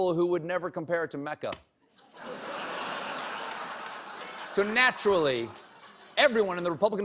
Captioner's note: laughter